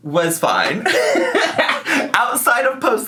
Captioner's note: laughing